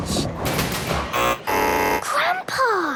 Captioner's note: buzzing